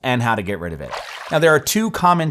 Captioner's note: water splashing